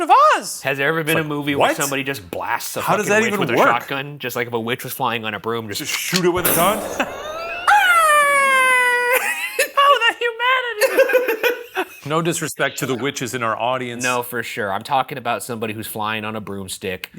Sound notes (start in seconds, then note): 6.7 laughs; 7.2 imitates witch moans; 10.8 laughs